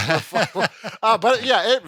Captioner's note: laughing